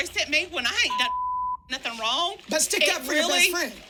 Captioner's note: beep